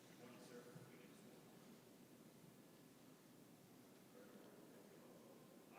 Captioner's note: speaks faintly